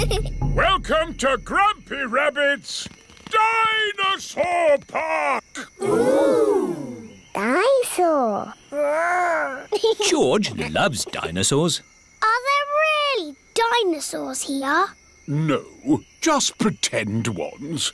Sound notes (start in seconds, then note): 8.7 giggles